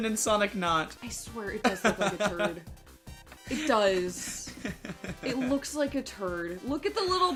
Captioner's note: laughing